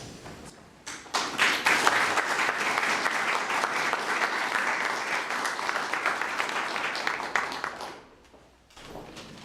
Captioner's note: applause